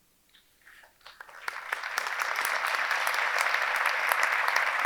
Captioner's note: audience clapping